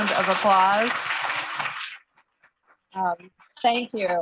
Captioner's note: applause